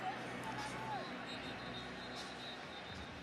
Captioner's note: whistle